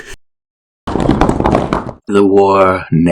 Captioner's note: rock tumbling noises